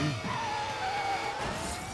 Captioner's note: tires screeching; cars smashing